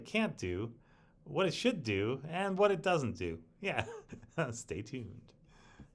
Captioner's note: chuckling